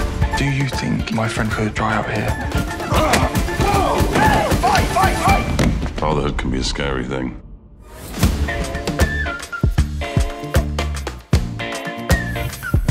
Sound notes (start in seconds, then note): 2.8 shouts; 2.8 grunting